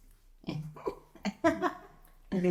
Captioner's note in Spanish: risas